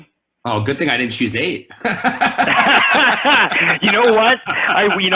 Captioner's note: laughs